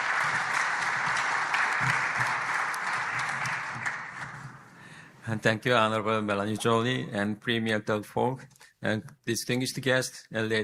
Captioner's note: applause